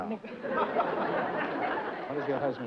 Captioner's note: laughter